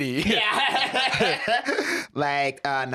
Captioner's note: laughs